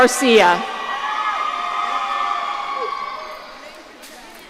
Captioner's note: audience cheering